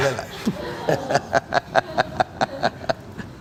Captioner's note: laughs